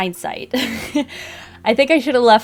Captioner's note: laughs